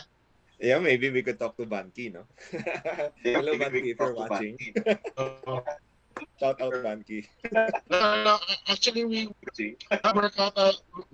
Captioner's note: laughs